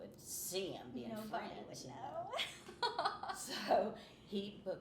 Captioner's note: laughing